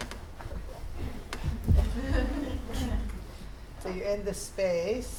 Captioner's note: audience chuckles